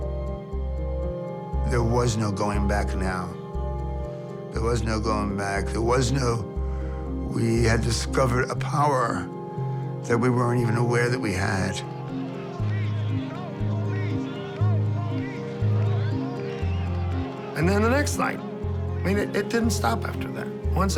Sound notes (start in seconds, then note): 11.8 crowd chanting